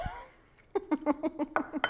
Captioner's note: laughs